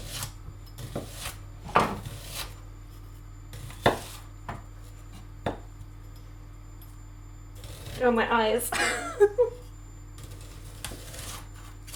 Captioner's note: chuckles